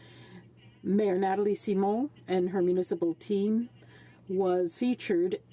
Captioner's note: speaking French